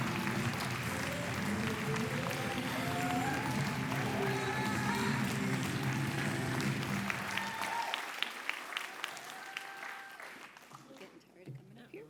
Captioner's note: applause